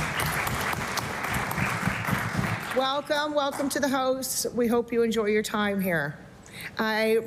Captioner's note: applause